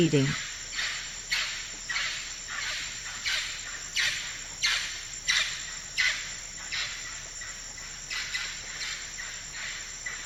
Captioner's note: forest sounds